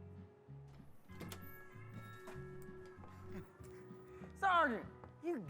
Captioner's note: door creaking